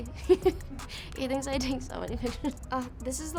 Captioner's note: laughs